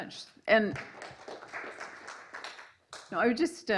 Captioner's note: applause